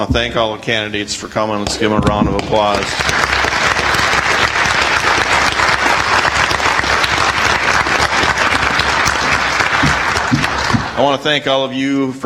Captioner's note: audience applauds